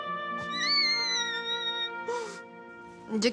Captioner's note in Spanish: Grito contenido